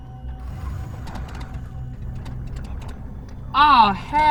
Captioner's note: car engine sputtering